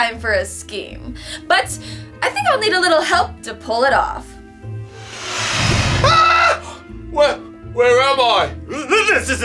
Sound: screams

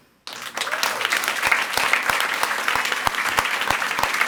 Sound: audience applauds

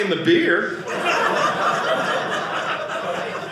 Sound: audience laughing

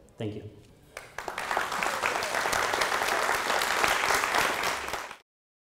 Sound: applause

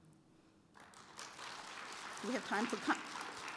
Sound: applause

